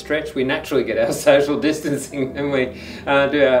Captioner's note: laughs